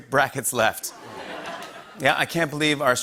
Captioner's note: laughter